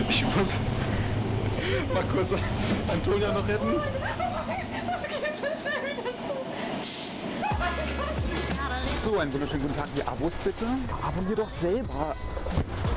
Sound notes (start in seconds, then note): 0.1 laughing; 7.5 whimpering